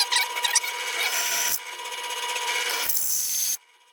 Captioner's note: drill whirring